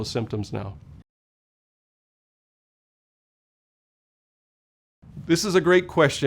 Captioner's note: no audio